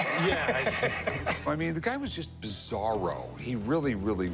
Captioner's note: laughs